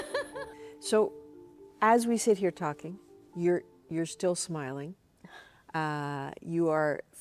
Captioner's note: laughter